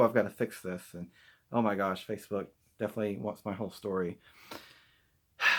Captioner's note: sigh